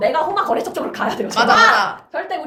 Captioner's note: laughs; laughter